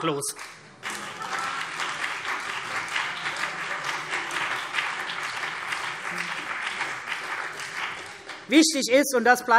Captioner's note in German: Beifall CDU und BÜNDNIS 90/DIE GRÜNEN